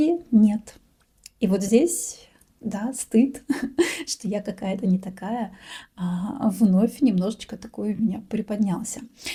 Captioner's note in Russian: смех